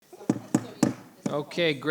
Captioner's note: gavel thudding